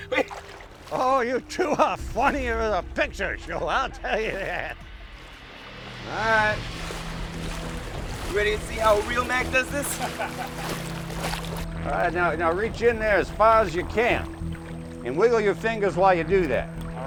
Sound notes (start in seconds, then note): 1.3 chuckling; 9.8 laughs